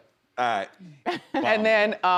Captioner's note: Wendy laughs